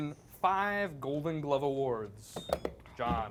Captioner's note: beep